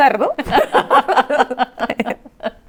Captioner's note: both laughs